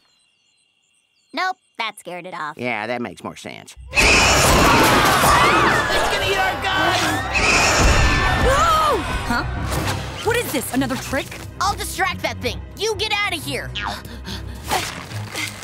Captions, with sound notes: Nope. That scared it off. Yeah, that makes more sense. [screeching] [screaming] It's gonna eat our guts! No! Huh? What is this, another trick? I'll distract that thing. You get out of here.